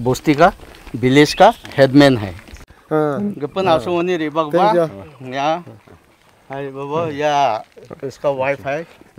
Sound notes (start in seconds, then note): 2.6 speaking local language